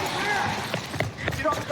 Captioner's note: footsteps running